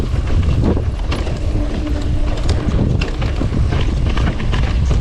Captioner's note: bike thumping